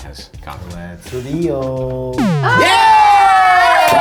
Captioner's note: tones chirping; all cheering